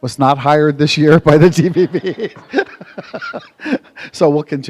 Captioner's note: laughter